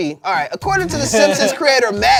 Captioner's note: laughs